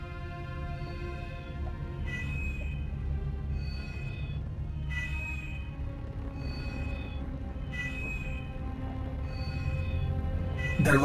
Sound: medallion Beeping

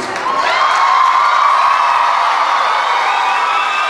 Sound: cheering

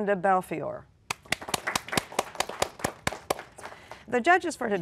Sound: applause

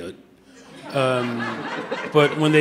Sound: audience laughing

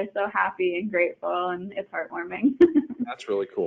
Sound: chuckling

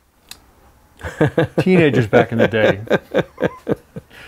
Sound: laughing

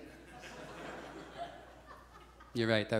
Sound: audience chuckles

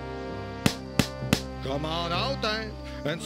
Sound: knocking

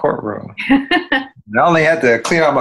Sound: laughing

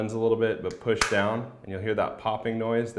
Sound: plastic popping

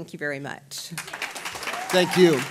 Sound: applause

